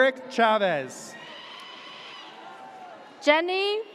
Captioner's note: audience cheers